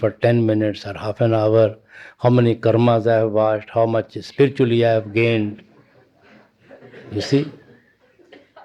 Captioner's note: laughter